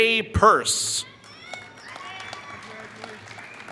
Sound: applause

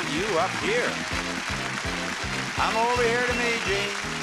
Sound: audience applauding

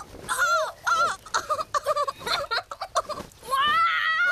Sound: laughter

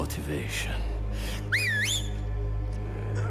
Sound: whistle

